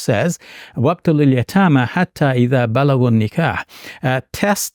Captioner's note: speaking in Arabic